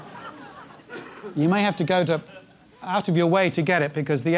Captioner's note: laugh